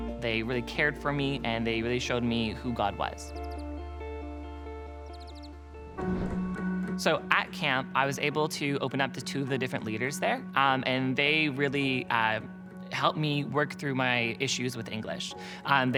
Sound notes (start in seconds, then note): 0.0 inspiring music; 3.4 inspiring music; 4.9 birds chirping; 5.9 upbeat music